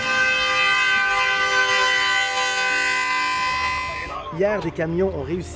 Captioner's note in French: klaxon